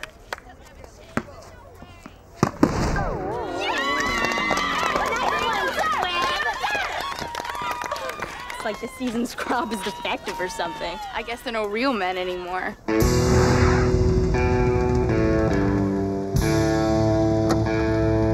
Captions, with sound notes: (tennis ball popping) (girls cheering) - It's like this season's crop is defective or something. I guess there're no real men anymore. (dramatic music)